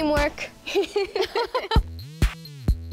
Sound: laughs

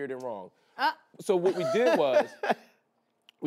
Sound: laughs

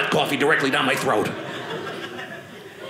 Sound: audience laughing

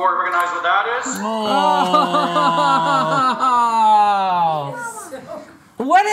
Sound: laughing

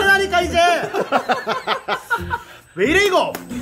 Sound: blow blow

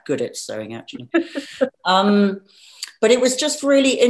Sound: laughing

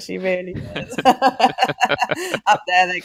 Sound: laughing

